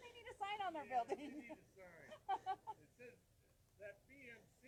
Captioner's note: laughing